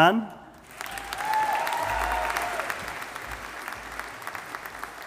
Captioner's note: audience applauding